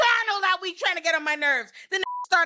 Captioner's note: beep